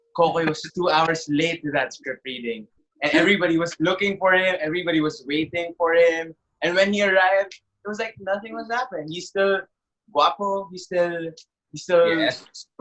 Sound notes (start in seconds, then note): 9.9 in Spanish